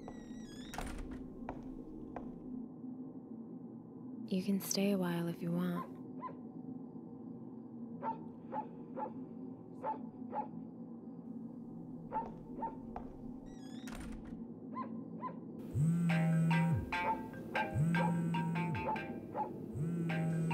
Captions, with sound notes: -You can stay a while if you want. [dog barking outside] [door squeaks shut] [phone chiming and vibrating]